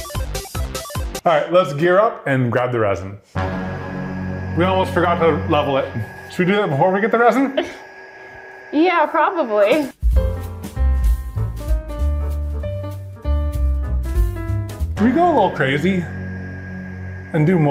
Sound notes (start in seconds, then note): 0.0 playful music; 3.6 dramatic music; 8.9 laughing; 10.0 upbeat piano music